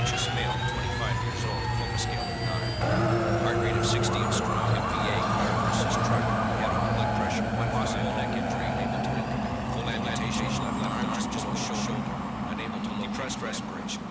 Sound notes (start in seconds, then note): 3.5 helicopter; 3.5 siren; 3.5 tires screeching